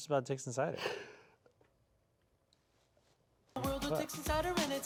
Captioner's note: sighing